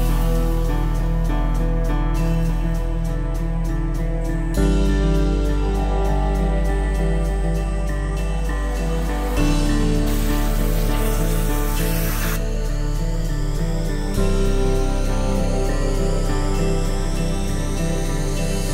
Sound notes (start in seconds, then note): 0.1 uplifting music; 10.3 water spraying